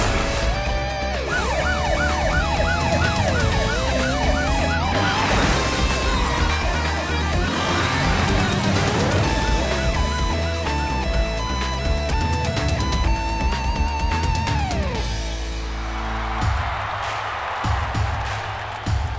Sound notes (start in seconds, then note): 0.8 siren wailing; 15.6 cheering